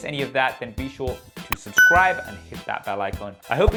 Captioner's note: bell ringing